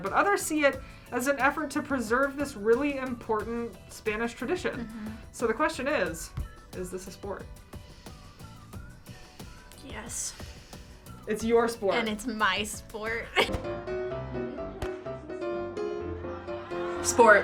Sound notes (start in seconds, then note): 13.1 playful piano music; 13.3 laughs